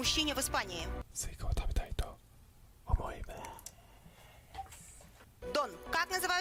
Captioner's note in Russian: "Я хочу съесть арбуз" шёпотом